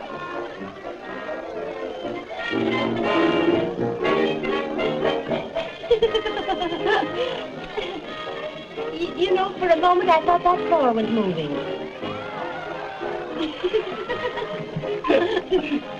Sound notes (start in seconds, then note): 5.4 giggles; 13.2 giggles; 13.3 giggle